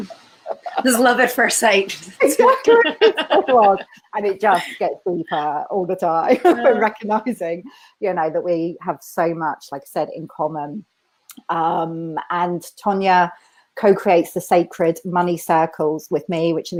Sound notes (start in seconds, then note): 2.2 laughter